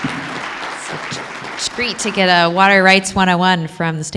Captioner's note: applause